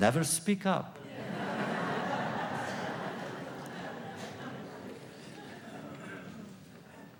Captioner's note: laughter